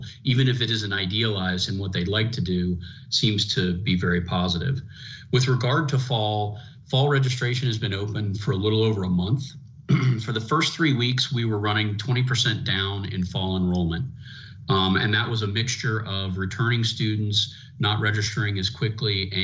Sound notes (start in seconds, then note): 9.9 clears throat